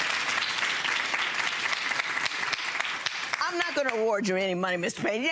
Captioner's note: audience clapping